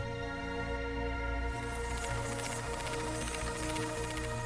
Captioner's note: whirring sound